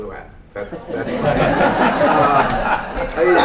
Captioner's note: laughter